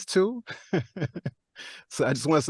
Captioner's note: laughs